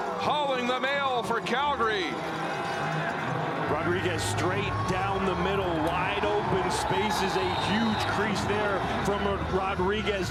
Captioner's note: crowd Noise